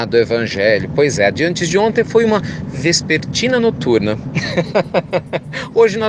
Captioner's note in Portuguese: Risos